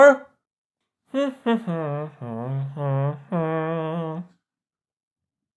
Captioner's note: hums national anthem